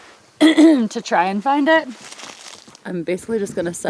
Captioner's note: clears throat